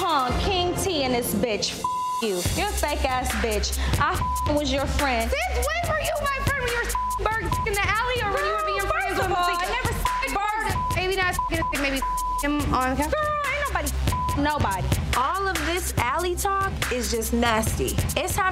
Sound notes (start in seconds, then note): 1.8 beep; 7.2 beep; 10.6 beep; 14.0 beep